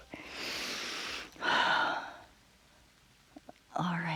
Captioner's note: inhales and exhales